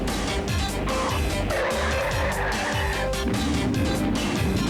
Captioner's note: brakes screech